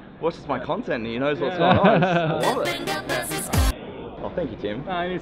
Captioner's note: everyone laughing